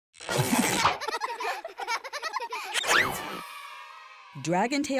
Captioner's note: children laughing